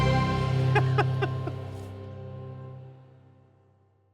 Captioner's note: Noel laughs